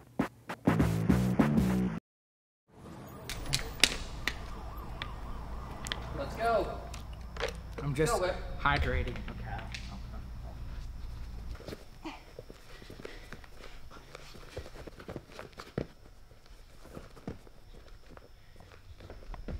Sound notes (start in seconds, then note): 3.3 city noise; 6.1 water bottle sounds; 12.4 whippy grunting